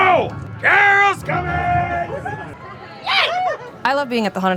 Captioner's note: screams